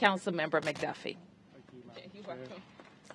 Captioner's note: applause